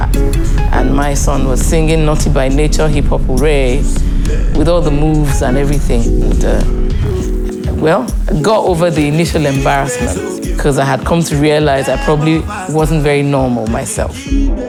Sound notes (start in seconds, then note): none